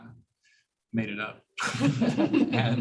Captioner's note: laughter